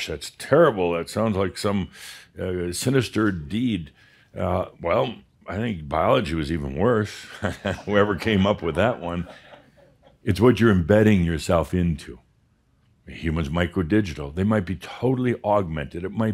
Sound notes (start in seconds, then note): 7.2 chuckles